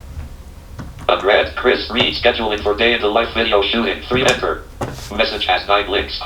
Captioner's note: automated computer voice